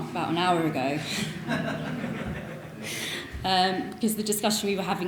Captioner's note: audience laughing